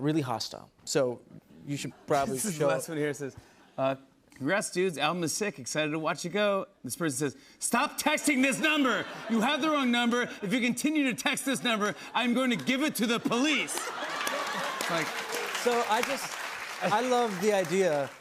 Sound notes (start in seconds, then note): 13.4 laughter and applause